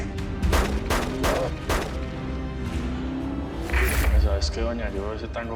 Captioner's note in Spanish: Disparos